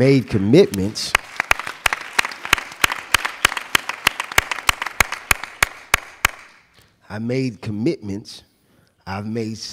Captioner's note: applauding